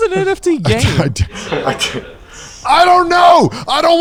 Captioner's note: crew murmurs